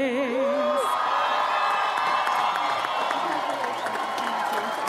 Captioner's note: audience applauds